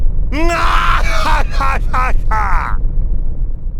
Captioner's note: laugh